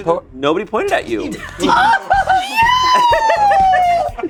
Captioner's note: group laughs